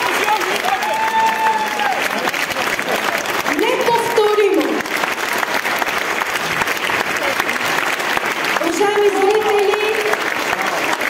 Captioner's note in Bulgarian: аплодисменти